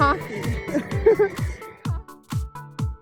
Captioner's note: giggles